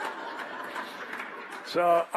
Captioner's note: laughter